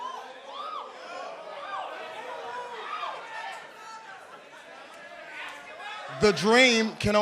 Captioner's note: crowd cheering